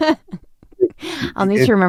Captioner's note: laughter